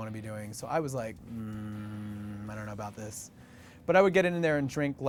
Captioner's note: groaning